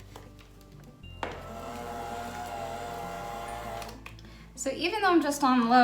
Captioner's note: mixer sounds